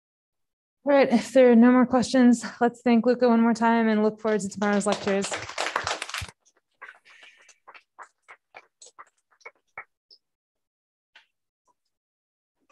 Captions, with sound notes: All right, if there are no more questions, let's thank Luca one more time and look forward to tomorrow's lectures. (applause)